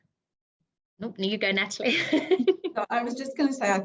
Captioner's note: chuckling